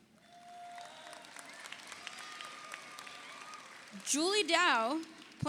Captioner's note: audience cheers; audience applauds